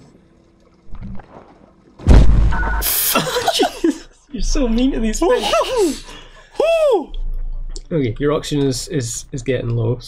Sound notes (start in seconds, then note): 3.1 laughter